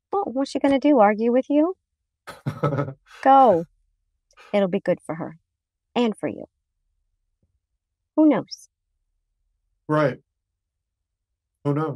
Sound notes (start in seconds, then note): 2.3 laughs